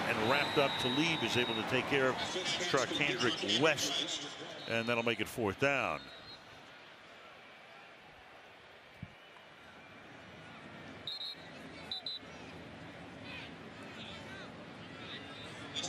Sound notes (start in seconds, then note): 11.0 whistle